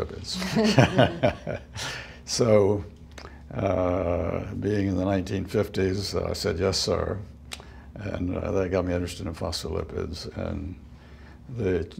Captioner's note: laughter